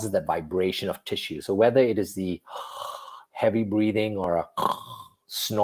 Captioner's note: breathes; snores